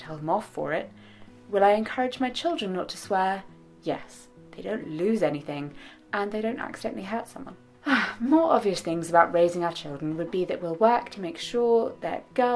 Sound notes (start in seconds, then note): 7.8 sighs